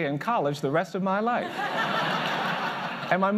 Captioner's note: laughter